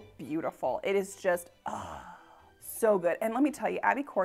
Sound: sighs

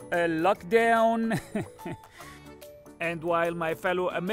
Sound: laughs

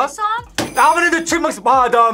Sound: bells jingling

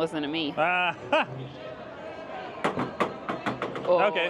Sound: laughs

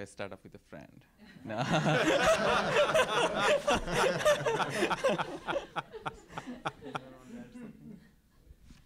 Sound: laugh

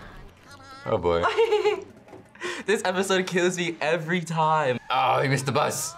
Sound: laughs

